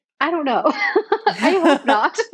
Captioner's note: both laughing